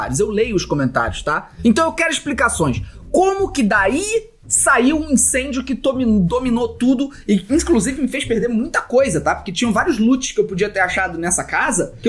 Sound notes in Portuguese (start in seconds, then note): none